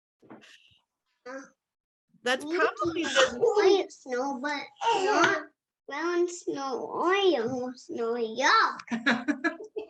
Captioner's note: laughing